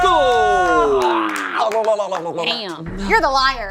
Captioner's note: vocalizes